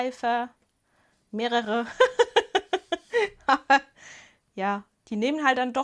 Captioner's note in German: Gelächter